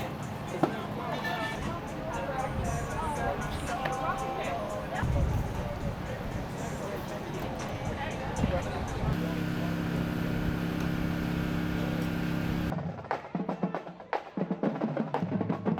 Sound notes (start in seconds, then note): 0.2 people chattering continues; 3.6 utensils clanking; 9.1 people chattering continues; 12.5 engine humming